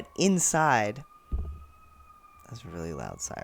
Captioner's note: siren in the background